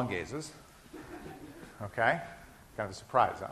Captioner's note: class laughing